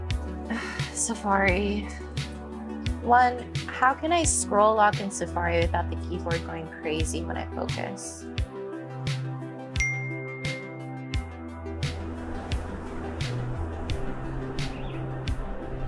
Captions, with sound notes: - Safari. One, how can I scroll lock in Safari without the keyboard going crazy when I focus? (notification dinging) (lively music)